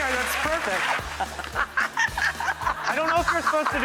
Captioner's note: laughing